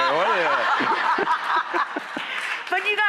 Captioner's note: laughter